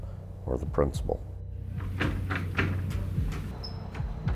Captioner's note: heartbeat thumping; door rattling